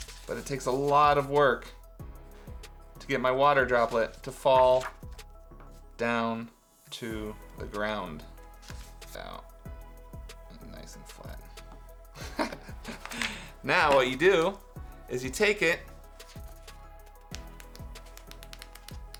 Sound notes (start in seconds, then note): 12.2 chuckles; 16.4 upbeat music